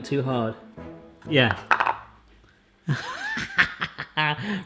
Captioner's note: laughs